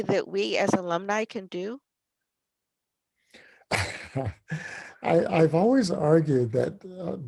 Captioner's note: laugh